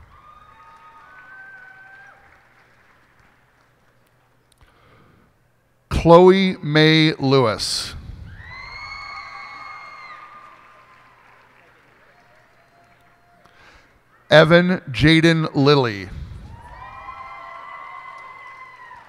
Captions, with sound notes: [cheers and applause] Chloe May Lewis. [cheers and applause] Evan Jayden Lilley. [cheers and applause]